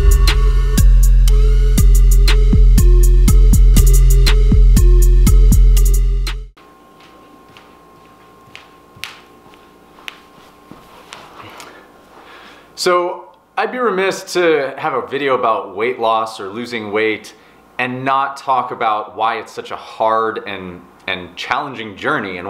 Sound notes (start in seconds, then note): 0.0 mellow hip-hop music; 9.9 feet slapping